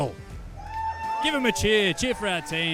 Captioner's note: audience cheering